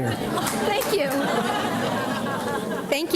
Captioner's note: audience laughs